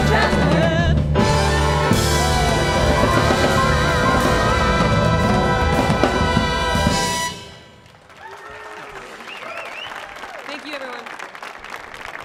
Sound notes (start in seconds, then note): 7.7 audience clapping; 12.0 clapping